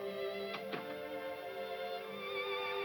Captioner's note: none